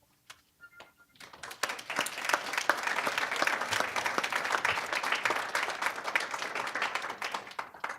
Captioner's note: applause